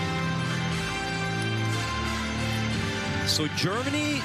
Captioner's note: applause